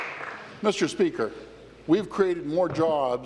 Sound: applause

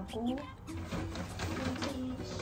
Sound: rustle

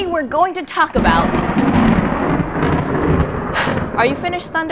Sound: loud thunder clap

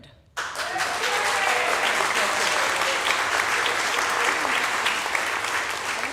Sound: audience applauding; audience cheering

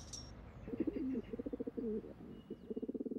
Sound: dove coos

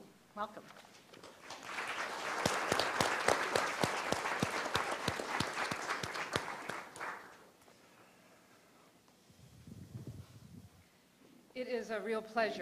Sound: applause

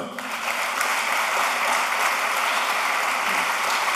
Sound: applause

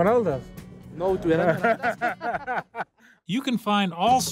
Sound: speaking Spanish; laughs

